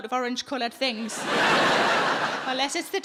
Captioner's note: audience laughing